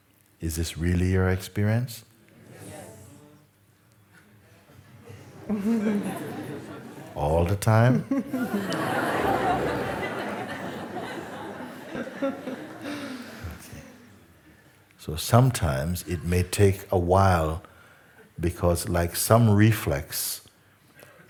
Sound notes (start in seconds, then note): 4.8 laughter